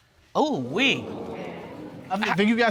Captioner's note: audience exclaims